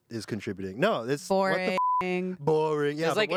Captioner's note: beep